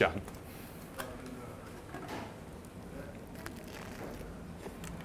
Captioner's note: crunch